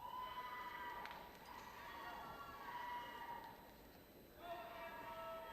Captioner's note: people shouting and cheering